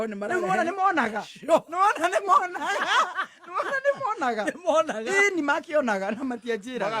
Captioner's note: laughter